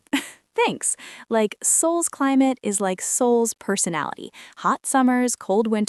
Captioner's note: laughs